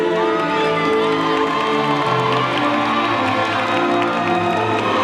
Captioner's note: audience cheering and applauding